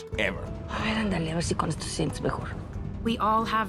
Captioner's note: in Spanish